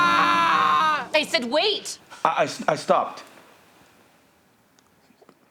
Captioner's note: Grayson screams